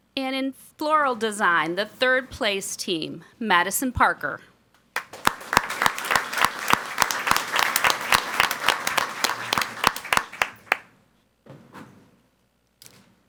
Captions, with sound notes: And in floral design, the third place team, Madison Parker. (people clapping)